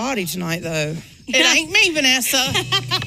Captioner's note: laughs